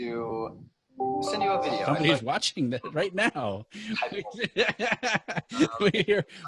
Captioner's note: laughs